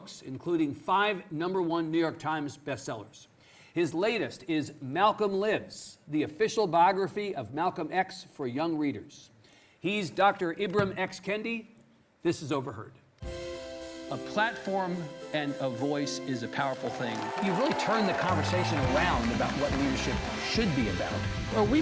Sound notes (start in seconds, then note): 13.3 inspiring music; 16.6 audience cheering